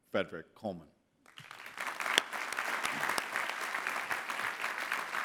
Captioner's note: clapping